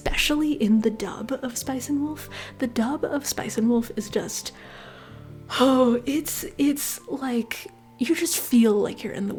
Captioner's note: sighs